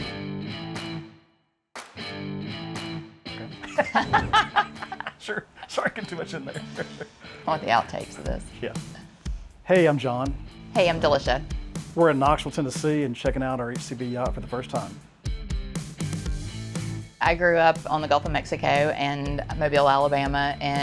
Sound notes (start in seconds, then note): 0.2 upbeat music; 3.6 laughing